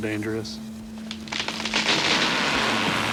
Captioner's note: falling tree